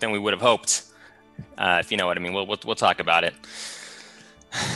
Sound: exhales heavily

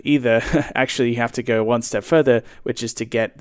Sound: chuckles

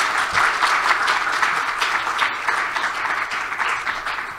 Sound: applause

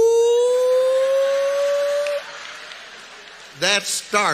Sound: audience laughs

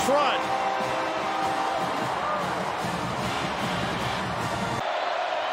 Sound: crowd

